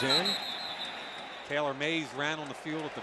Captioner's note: whistle blows